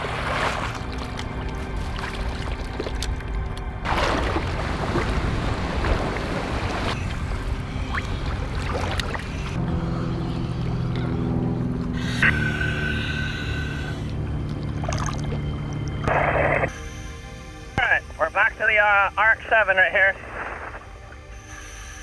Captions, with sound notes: (water splashes) (engine rumbles) (water gurgles) All right, we're back to the RX-7 right here.